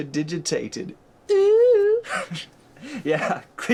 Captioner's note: laughs